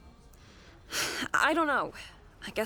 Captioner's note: sighs